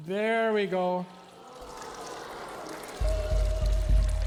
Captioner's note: bubbling, audience exclaiming; warbling music